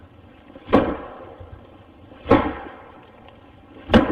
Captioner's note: banging